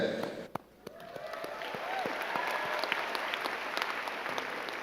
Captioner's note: all clapping